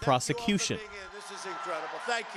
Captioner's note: cheering and applause